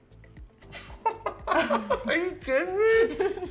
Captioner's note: upbeat music; laughs